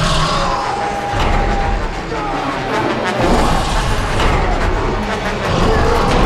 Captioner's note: Sinclair screaming; dramatic music